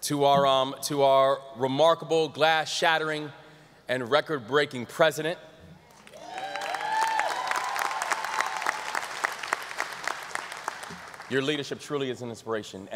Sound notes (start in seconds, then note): 6.0 audience applause